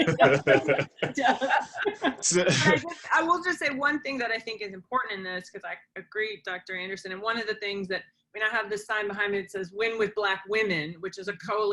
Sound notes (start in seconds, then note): 3.0 laughter